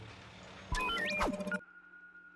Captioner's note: beeping